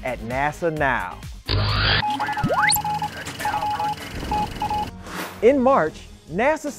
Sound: sound Effects

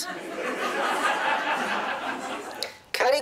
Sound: laughter

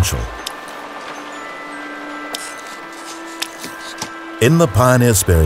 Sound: raindrops spattering

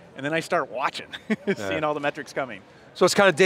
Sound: laughs

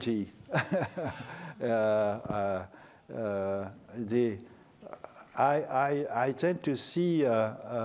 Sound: laughter

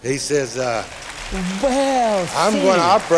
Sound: applause

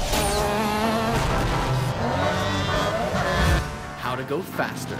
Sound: loud engine noises

